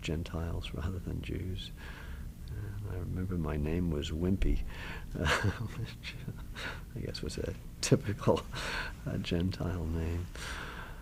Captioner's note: laughs